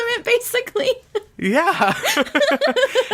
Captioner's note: laughs